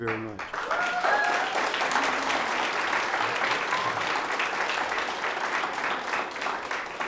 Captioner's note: audience applauds; audience cheers